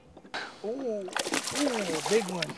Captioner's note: splash